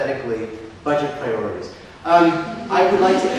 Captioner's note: audience laughs